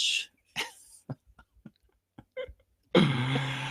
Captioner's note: both laughing